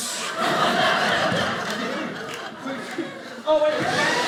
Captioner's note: audience laughing